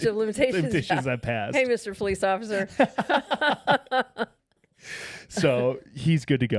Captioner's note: both laughing